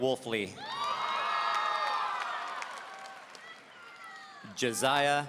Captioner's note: audience cheering